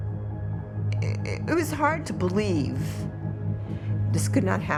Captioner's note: stammers